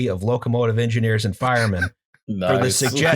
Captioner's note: laughter